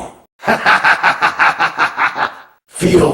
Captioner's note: laughing